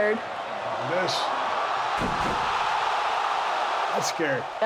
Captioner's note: crowd cheering